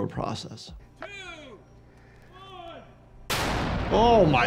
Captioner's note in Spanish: C4 explota